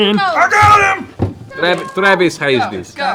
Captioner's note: yelling